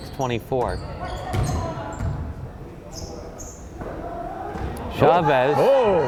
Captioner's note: crowd chattering